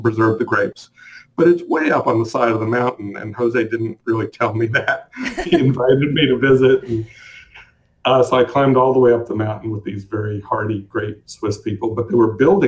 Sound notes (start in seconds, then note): 4.8 chuckles